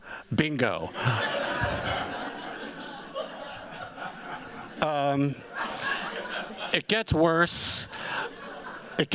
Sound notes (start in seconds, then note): 0.8 laughter